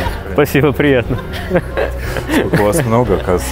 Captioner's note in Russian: смех